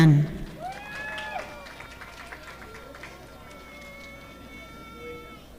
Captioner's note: audience applauding